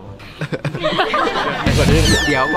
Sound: chuckles; laughs

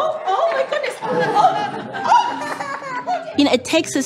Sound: laughter

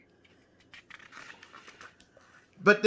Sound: paper flipping

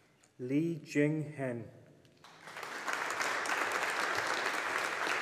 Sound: audience applauding

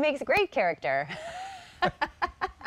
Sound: laughter

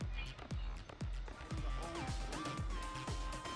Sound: none

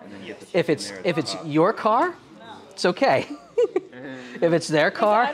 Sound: laughing

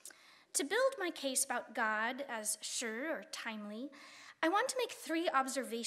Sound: speaking Chinese

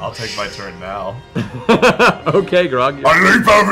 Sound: laughs

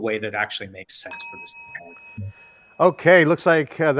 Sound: bell dings

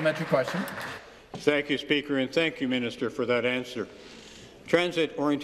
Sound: applause

